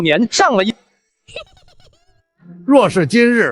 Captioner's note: chuckling heartily